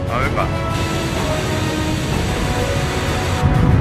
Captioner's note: Static